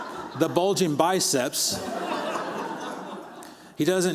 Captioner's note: laughter